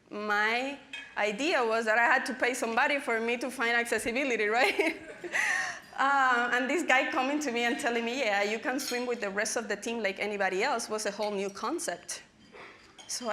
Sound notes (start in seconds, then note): 4.9 laughing